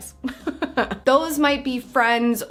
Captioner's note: laughs